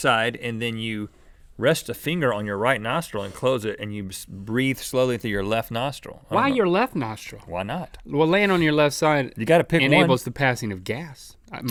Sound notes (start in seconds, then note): none